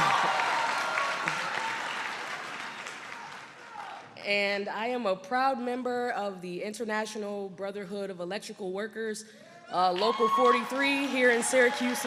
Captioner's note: applause